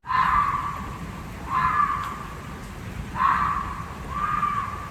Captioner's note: animal screaming